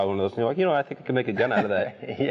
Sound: laughing softly

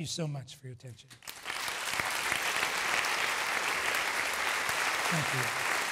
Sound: applause

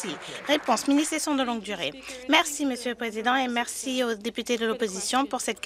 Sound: some Applause

